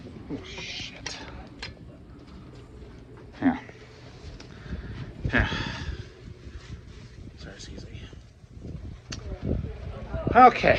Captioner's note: students chattering